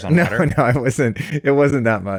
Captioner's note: laughs